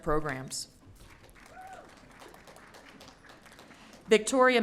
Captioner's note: audience cheering